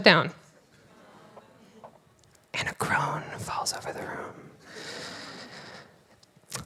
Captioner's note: quiet Voice